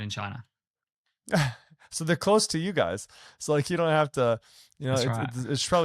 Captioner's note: chuckles